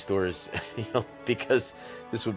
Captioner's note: chuckles